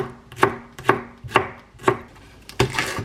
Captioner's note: chopping